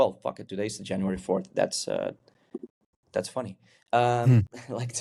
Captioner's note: chuckles